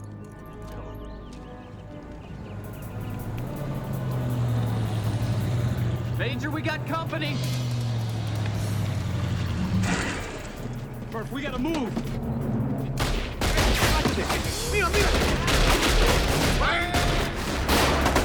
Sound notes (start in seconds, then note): 4.3 truck rumbling; 7.8 tense music; 13.0 gunshots cracking; 13.3 people shouting in Spanish; 18.0 gunfire rattling